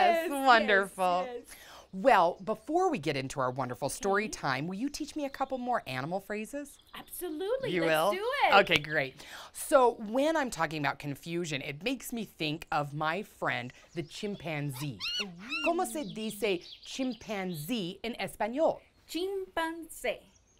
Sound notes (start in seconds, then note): 8.9 claps; 14.7 chimpanzee calls